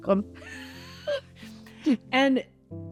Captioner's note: chuckles